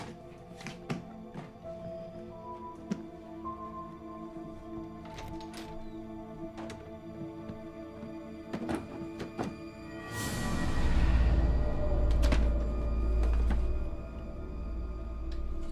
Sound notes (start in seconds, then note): 1.1 suspenseful music; 5.4 door latch clicks; 10.3 dark eerie music; 12.3 door clicks